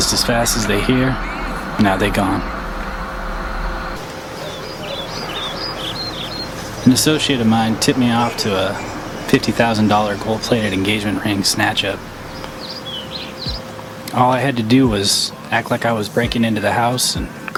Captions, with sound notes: Just as fast as they here, now they gone. (birds tweeting) An associate of mine tipped me out to a $50,000 gold-plated engagement ring snatch-up. All I had to do was act like I was breaking into the house,